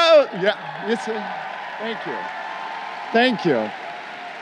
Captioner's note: crowd cheering